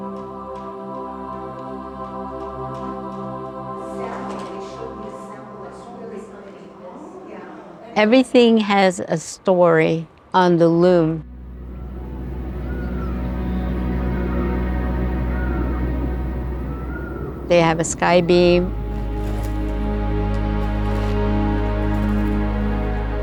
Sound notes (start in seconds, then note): 0.0 soft music; 11.2 soft music; 13.7 nature Desert sound birds chirping; 18.5 nature Desert sound foot steps on dirt